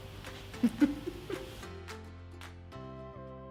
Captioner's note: laughing; upbeat music